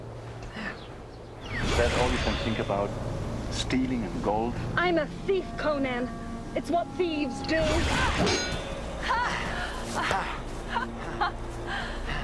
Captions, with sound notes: - There. (ethereal woosh) - Is that all you can think about? Stealing and gold? - I'm a thief, Conan. It's what thieves do. (ethereal woosh) (metal clanging) - Ha! - Ha-ha!